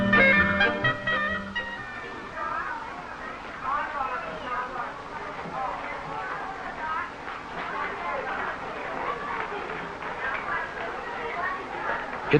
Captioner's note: soft chattering